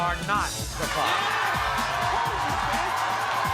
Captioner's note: cheering